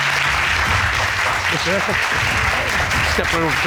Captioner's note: courtroom applauding